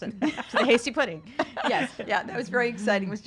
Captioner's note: laughs